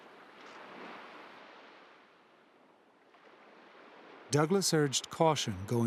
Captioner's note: waves crashing